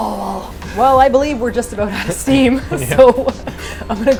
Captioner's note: laughing